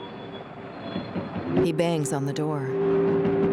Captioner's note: banging; frenetic banging